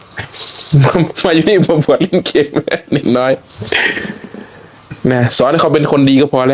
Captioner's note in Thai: เสียงหัวเราะ